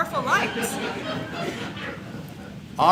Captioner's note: audience laughs